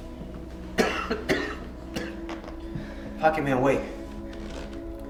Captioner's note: coughing